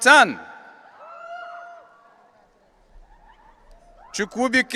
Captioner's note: audience cheering